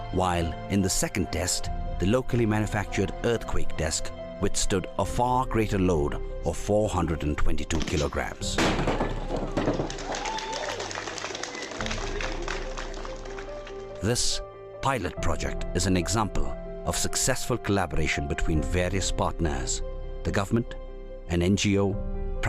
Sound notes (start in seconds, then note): 8.4 desk breaks; 9.9 cheering